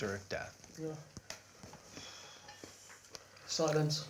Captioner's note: long exhales